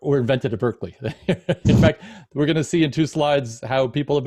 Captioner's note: laughs